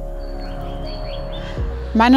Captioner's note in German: Vogelzwitschern